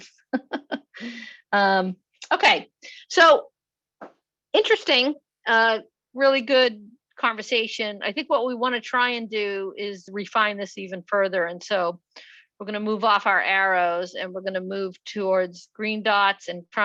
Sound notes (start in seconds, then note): 2.2 chuckles